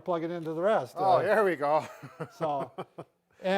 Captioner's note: chuckles